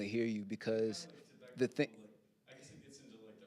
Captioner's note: audience member starting to speak